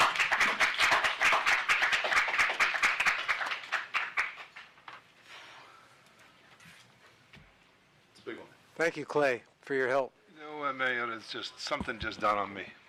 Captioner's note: applause